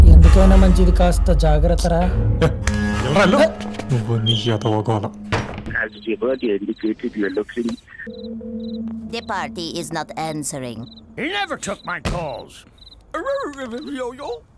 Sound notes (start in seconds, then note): 5.6 TV playing; 8.9 switching random channels on TV